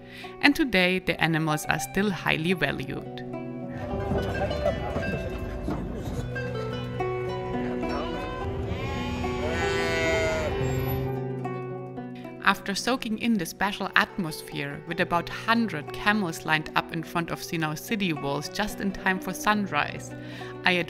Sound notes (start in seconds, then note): 7.8 goats bleating